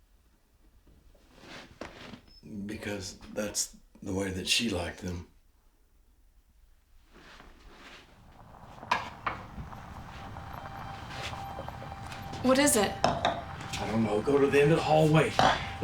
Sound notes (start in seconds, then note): 7.7 engine rumbles; 8.4 suspenseful music